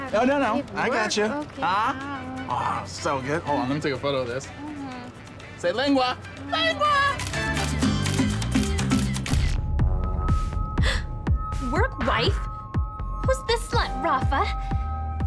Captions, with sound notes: - No, no, no, I got you. - Oh, okay. - Aah. - Oh, it's so good. Hold on, let me take a photo of this. Say lengua. Lengua! (camera clicking) - Work wife? Who's the slut, Rafa?